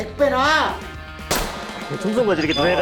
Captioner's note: bullet fired